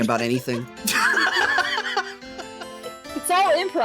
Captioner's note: all Laughing